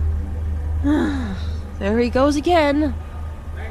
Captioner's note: loud, frightened gasp; groan